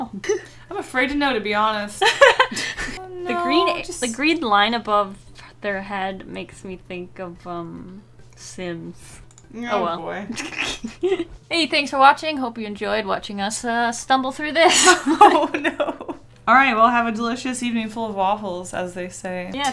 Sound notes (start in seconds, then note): 2.1 laughs; 10.3 sniggers; 14.6 both laugh